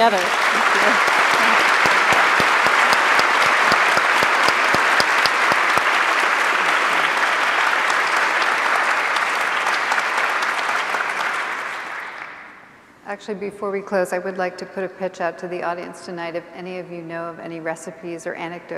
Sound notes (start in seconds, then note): 0.0 applause